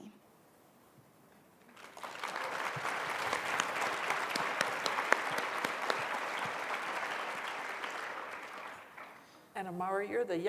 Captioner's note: applause